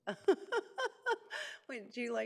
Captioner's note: laughing